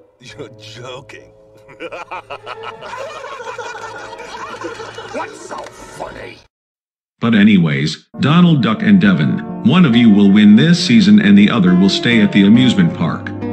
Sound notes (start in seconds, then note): 1.6 laughs evilly; 1.6 other people laugh